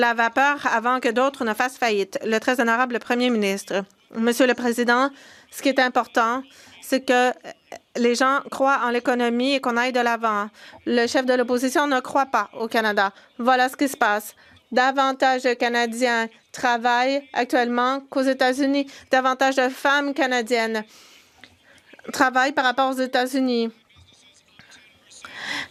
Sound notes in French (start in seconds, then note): 7.6 voix de l'interprète